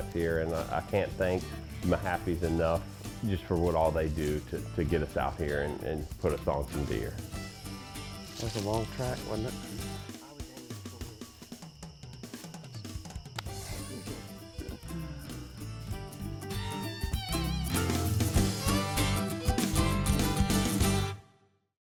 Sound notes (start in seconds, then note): 13.2 hands slap; 13.3 upbeat country music plays